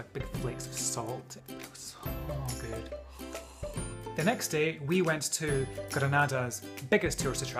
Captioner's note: orgasm noises